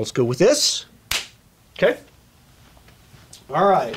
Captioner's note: hands clapping